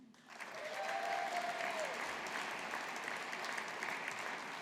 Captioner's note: audience applauding